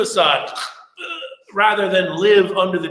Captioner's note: moans